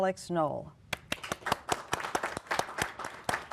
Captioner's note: applause